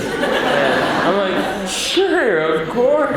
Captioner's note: audience laughs